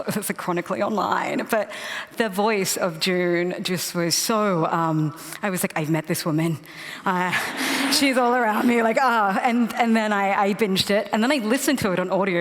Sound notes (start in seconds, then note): 7.1 laughter